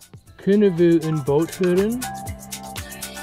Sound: speaking in foreign language; upbeat music

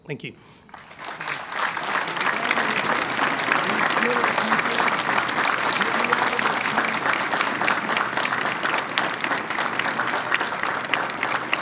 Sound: applause

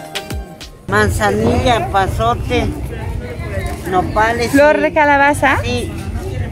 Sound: in Spanish

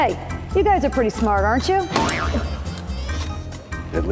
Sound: boink!

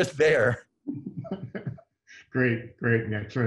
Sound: chuckling

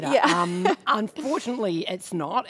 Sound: laughs

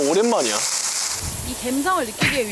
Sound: sounds like the sound of shower / immersed in the vibe

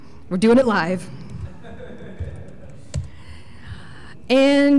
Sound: chuckle

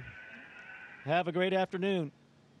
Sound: cheering and applauding

